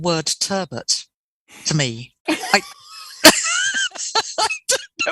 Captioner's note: laughter